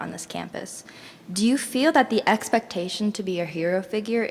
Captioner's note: none